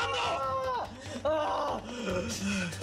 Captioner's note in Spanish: gritos